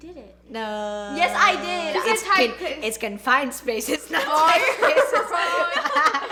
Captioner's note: laughs